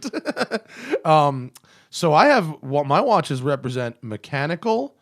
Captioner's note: laughter